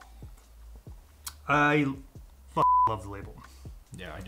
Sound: beep

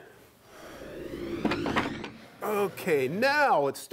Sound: wood whooshing

